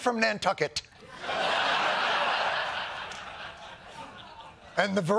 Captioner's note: laughter